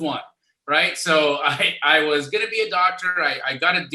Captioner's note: laughs